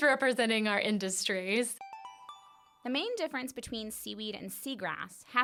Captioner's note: chime